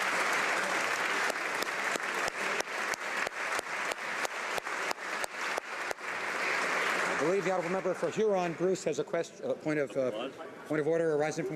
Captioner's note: applause